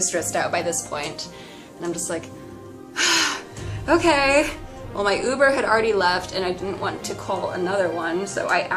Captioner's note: inhales deeply